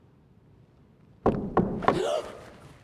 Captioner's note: knocking on door; Jane gasps